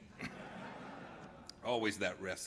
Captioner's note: laughter